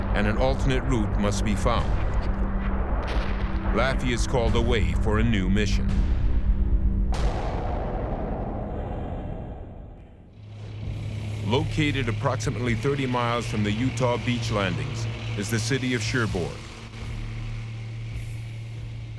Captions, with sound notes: And an alternate route must be found. Laffey is called a way for a new mission. [boom] Located approximately 30 miles from the Utah Beach landings is the city of Cherbourg.